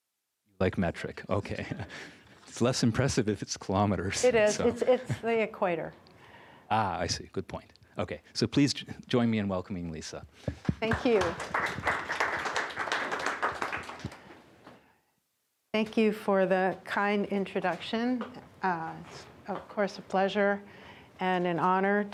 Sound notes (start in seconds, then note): 12.5 applause